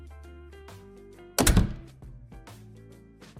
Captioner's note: door closes